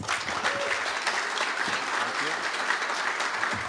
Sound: applause

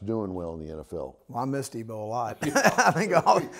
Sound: laughs

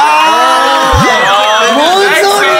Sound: ohhhh!

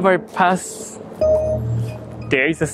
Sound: gate pings

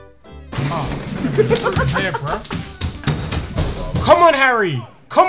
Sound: laughing

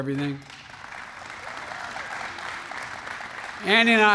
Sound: applause

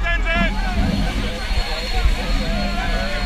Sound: yelling

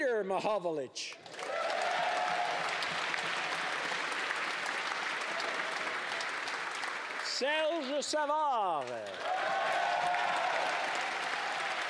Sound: applause

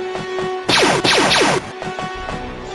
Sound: blaster fire

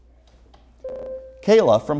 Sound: buzzer

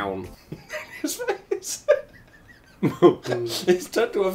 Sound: laughs

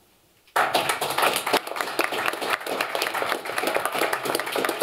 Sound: applause

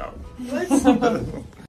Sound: all laughing

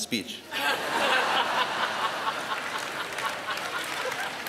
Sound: laughter

